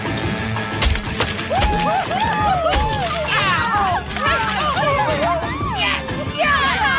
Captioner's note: cheering